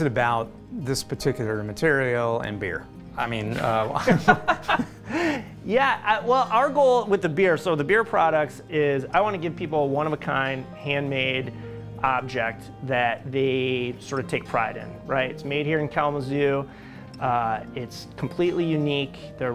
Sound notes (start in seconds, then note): 3.7 laughter